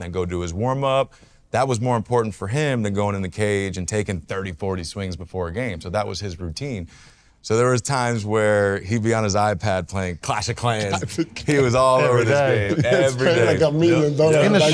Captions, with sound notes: and then go do his warmup. That was more important for him than going in the cage and taking 30, 40 swings before a game. So that was his routine. So there was times where he'd be on his iPad playing "Clash of Clans." - (chuckles) "Clash of Clans." - He was all over this game, every day. - That's kinda like a million- - In the shadow.